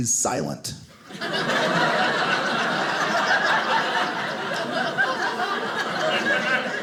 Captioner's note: audience laughing